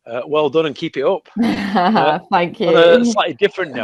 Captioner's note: laughs